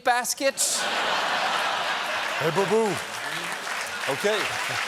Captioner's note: laughter